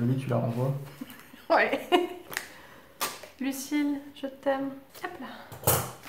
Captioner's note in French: rires